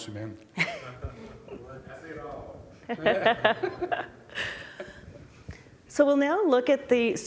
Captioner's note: laughing - comment from pubic - laughing